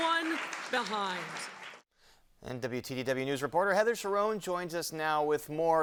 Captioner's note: applause